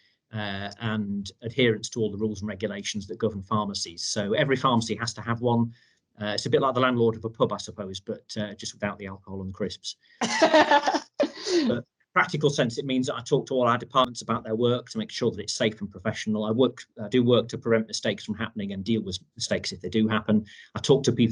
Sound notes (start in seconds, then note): 10.2 laughs